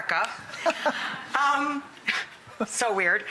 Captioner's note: laughing